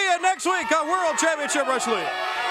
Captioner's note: crowd chatter; crowd cheering